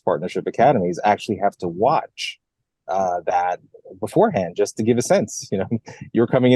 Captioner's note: laugh